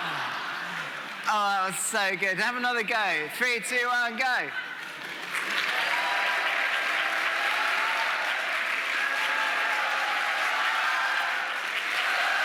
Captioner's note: audience making noise